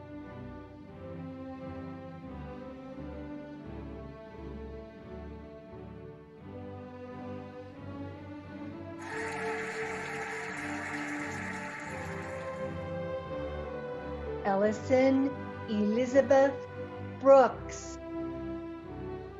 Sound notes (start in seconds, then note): 0.2 cheerful music; 9.0 cheering and applauding